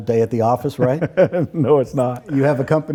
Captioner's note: laughing